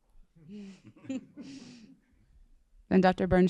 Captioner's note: laughs